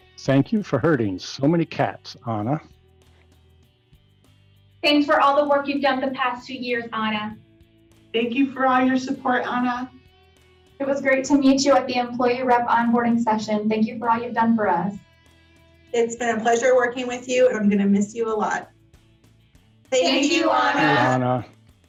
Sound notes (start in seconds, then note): 18.7 group speaking together